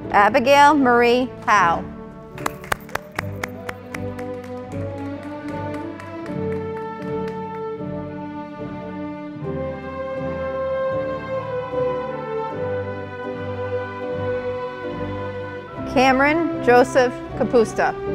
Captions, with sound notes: Abygayle Marie Howe, (audience applauding) Cameron Joseph Kapusta,